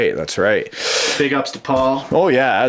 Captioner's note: voiceover